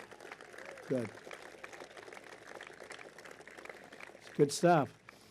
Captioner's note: applause